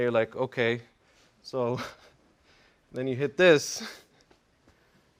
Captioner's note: laugh